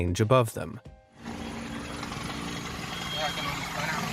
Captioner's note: helicopter engine revving